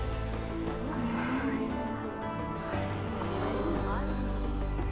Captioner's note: indistinct chatter